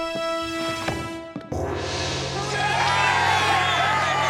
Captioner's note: dramatic gong; applause and cheering